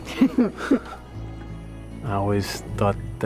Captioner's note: chuckles